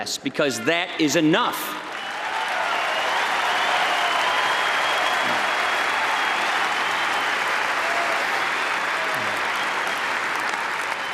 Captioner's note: applause